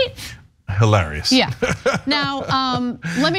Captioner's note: laugh